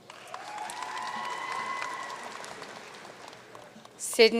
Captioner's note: audience cheering and applauding